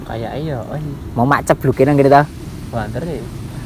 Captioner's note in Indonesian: suara air